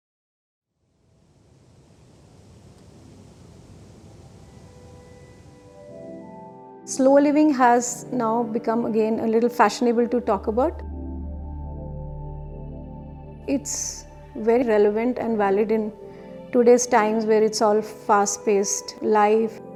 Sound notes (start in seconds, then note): 1.3 whoosh of wind